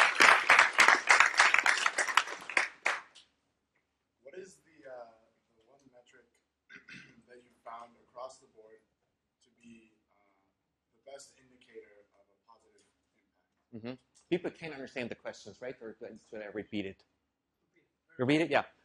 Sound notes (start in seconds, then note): 3.1 applause; 6.6 cough